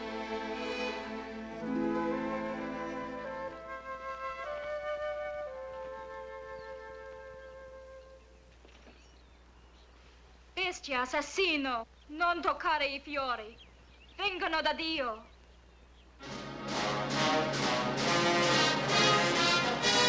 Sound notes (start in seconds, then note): 10.6 speaking in Italian; 16.2 dramatic orchestral music